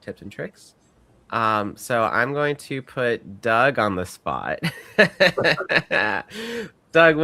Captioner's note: laughs